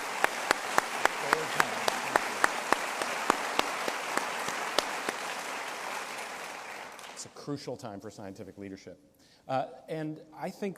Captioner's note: applause